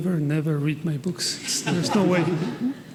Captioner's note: attendees laughing